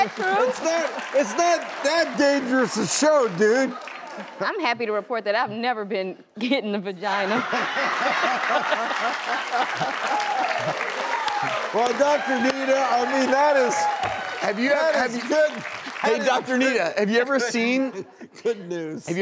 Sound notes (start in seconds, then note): 7.3 laughs; 8.5 audience clapping